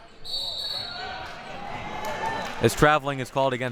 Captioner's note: whistle blowing